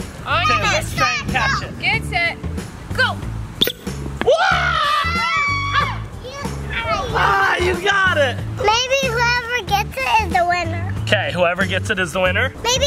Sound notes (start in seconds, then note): 3.5 toy squeaks loudly; 4.2 yelling and cheers